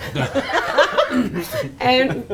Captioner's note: laughing